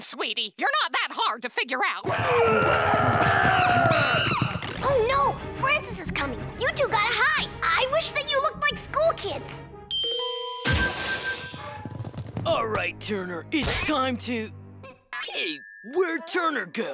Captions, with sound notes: you're not that hard to figure out. [grunting] Oh, no, Francis is coming. You two gotta hide. I wish that you look liked school kids. All right, Turner, it's time to... Hey, where'd Turner go?